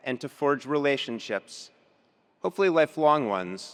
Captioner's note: none